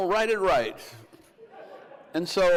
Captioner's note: crowd laughs